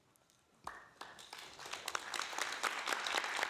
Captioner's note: applauding